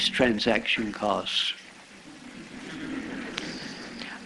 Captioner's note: laughter